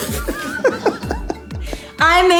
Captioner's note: laughter